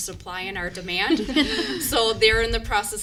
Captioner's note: members laugh